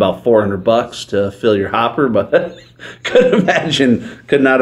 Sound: laughs

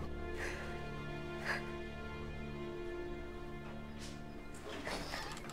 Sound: wailing sound; sound of door opening

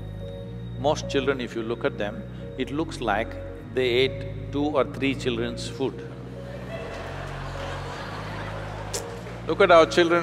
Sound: audience laugh

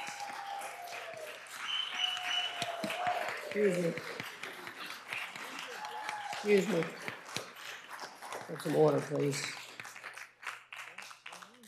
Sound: cheers and applause

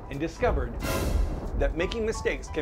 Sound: thunder!!

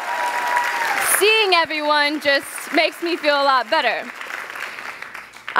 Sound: cheers; applause

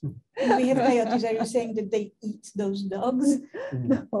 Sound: woman's Voice

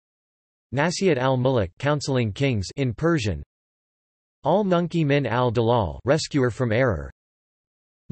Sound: in Persian

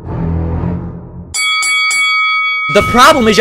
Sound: bell Ring

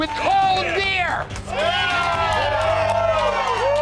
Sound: cheers

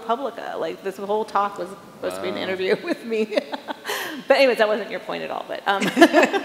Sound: chuckles

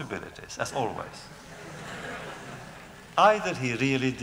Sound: laughter

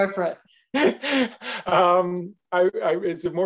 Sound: laughing

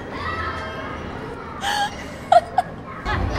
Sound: screaming

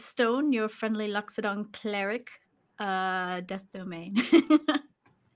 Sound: laughs

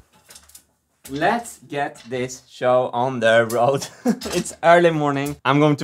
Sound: laughs

